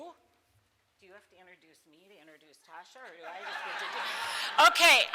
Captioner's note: speaks off microphone; crowd laughs